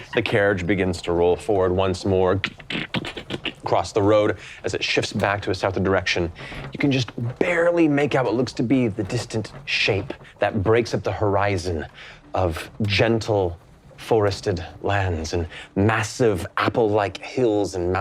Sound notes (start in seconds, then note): 2.5 imitates hooves clopping